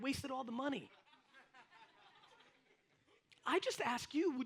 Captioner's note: audience laughs